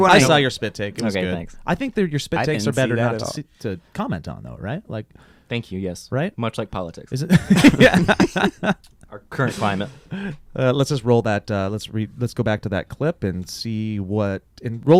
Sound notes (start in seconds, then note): 7.3 laughing